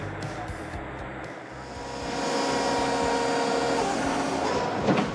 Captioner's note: engine pushing